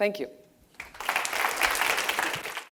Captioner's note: clapping